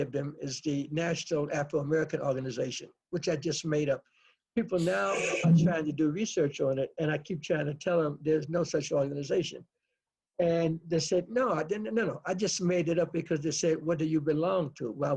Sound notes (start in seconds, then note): 4.7 laughs